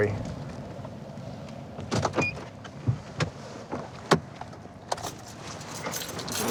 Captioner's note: car door opens